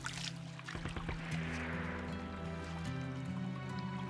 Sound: splashing water

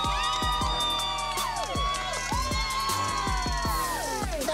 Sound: cheering

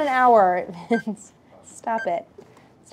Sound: countdown ticking

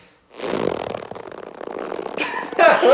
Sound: rubber stretching; laughs

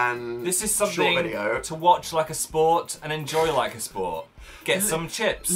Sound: laughs

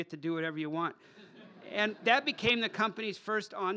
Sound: laughter

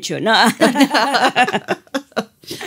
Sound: laughter

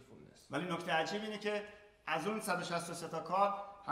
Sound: speaking in farsi

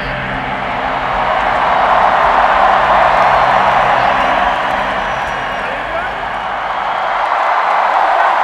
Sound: crowd cheering

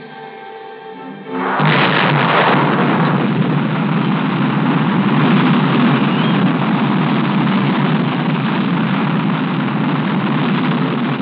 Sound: rocket Launching

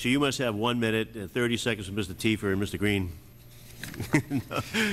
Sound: laughter

